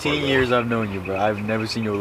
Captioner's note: laughter